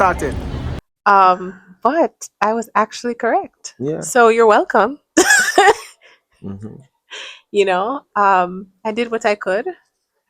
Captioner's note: clears throat